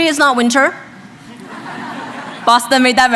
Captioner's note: laughs